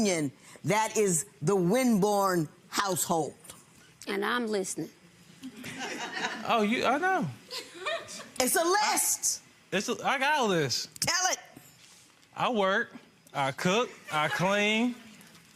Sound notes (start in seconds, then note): 5.6 audience laughs